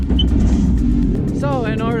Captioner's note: revving engine